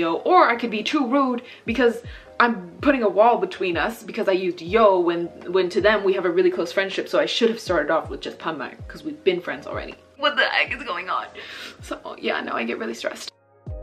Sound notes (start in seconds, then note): 8.4 speaking Korean